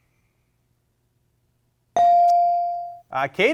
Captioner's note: bell rings